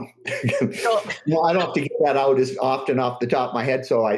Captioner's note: laughs